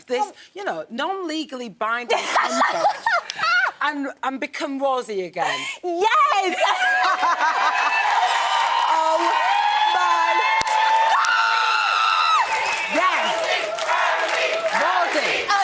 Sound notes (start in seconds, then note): 2.2 laughing; 11.1 screams